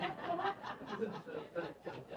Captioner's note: laughter